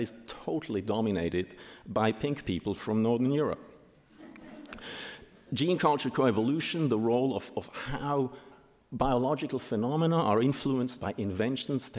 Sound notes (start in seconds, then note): 4.1 audience laughing